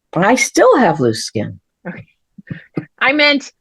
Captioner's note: laughs